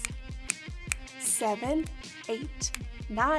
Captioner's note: snapping; snaps; snapping